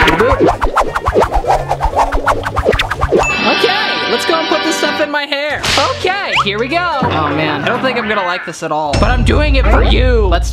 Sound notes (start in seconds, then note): 0.0 whooshing; 3.4 dinging